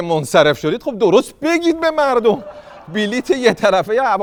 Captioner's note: laughter